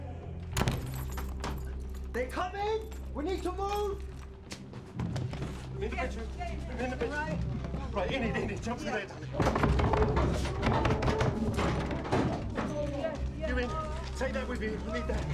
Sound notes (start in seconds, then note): 9.4 banging on door